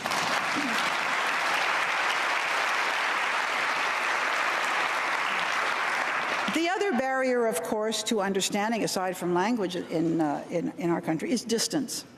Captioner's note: applause